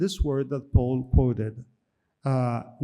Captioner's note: speaks in foreign language